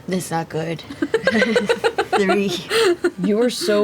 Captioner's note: laughs